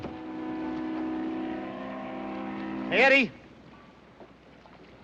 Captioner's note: ship horn; whispering